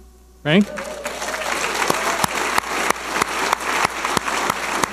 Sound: audience applauding

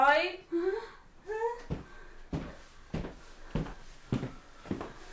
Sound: footsteps approaching

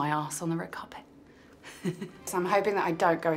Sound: Kaya laughs

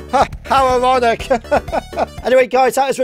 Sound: chuckles

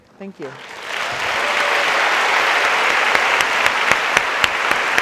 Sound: audience applauds

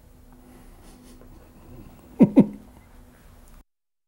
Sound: laughs

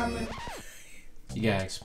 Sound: laughs

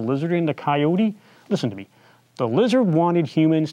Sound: none

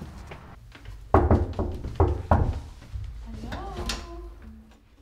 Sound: knocking on door

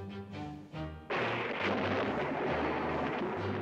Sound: thunderclap

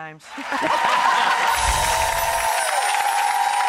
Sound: clapping

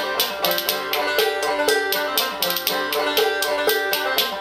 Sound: banjo strumming; spoons clacking

